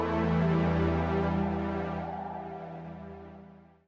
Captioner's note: wind sounds